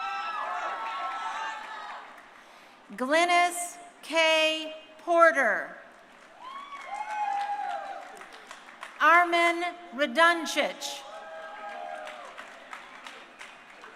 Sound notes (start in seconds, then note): 0.0 crowd cheering; 6.3 crowd cheering; 11.0 crowd cheering